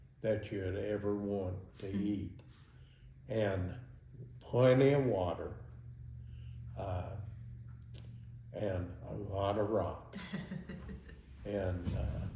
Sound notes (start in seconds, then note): 10.1 laughing